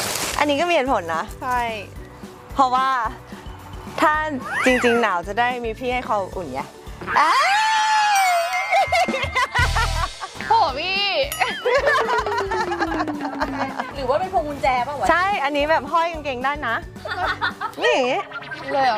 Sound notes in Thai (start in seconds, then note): 7.1 เสียงกรีดร้อง; 11.6 เสียงหัวเราะ